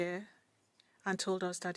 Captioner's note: speaking French